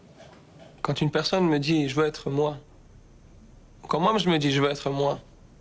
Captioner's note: speaking in foreign language